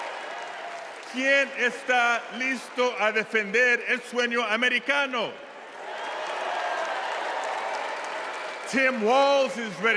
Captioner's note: cheers and applause